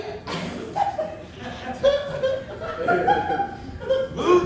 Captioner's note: audience laughing